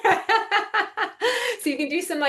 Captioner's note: laughing